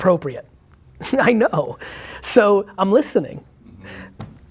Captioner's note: Gary chuckles